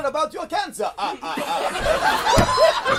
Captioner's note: Very Stanislavski laugh